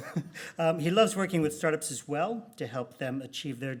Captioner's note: laughs